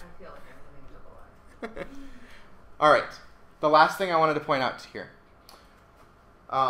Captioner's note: laughing